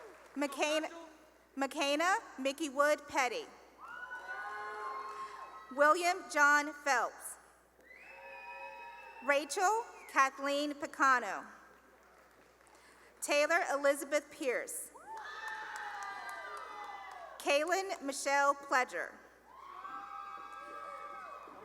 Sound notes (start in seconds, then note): 0.0 cheering and applause; 3.8 cheering; 7.8 cheering; 11.2 cheering and applause; 15.0 cheering and applause; 19.4 cheering